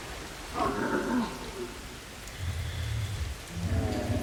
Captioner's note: creature roaring